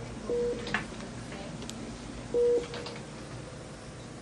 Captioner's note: beeping